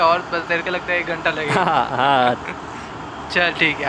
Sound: both Chuckle

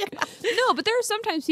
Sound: laughs

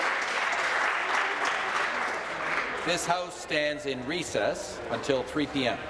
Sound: applause

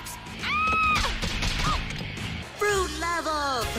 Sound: screams in multiple concussions

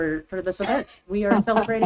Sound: chuckles

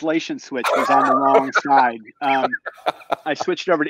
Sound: laughs

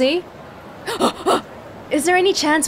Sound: exhales

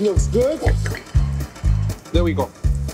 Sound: pan scraping

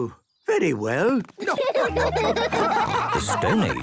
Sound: laughing

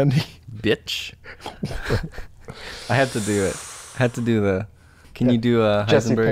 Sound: chuckles

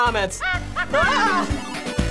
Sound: screams; Mario cackles

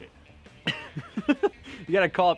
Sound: laughter

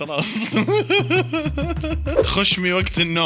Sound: laughter

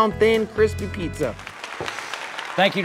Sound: audience clapping

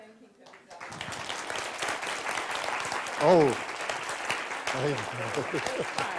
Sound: applause

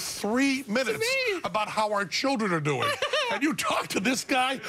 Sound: laughter

